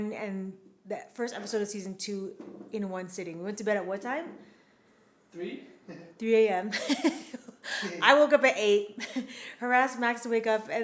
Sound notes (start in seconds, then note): 6.8 chuckles